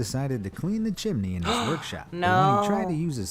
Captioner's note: gasps